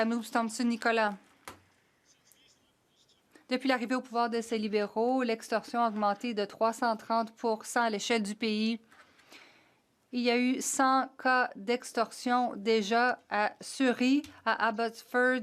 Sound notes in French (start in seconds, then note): 5.8 voix de l'interprète